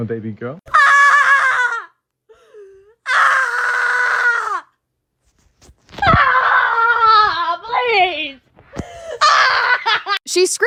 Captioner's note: screaming